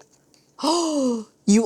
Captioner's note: gasps